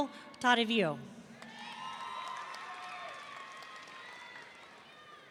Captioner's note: audience cheering